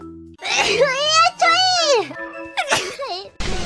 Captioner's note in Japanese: くしゃみ